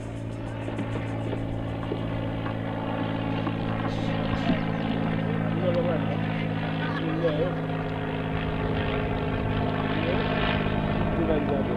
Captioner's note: plane approaching in distance